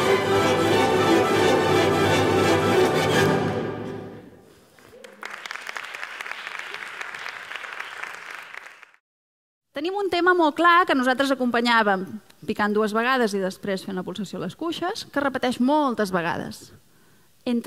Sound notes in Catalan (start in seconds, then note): 4.7 Aplaudiments